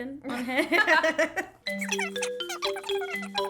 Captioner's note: laughing; mellow music